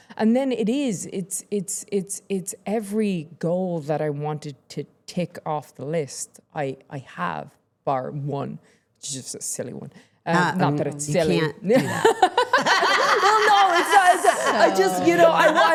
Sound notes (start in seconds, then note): 11.8 Becky and Stephanie laughing